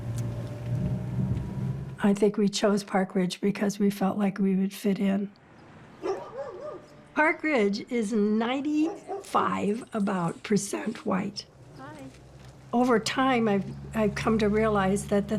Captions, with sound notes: (car engine rumbling) I think we chose Park Ridge because we felt like we would fit in. (dogs barking) Park Ridge is 95, about, percent white. Hi. Over time I've come to realize that